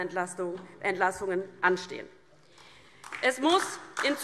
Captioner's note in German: Beifall DIE LINKE